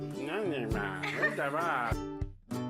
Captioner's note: giggling